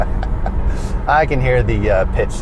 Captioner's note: both laugh